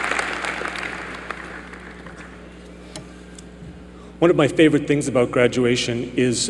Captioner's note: applause